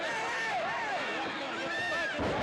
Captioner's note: crowd cheering